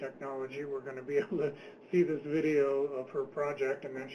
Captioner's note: laughs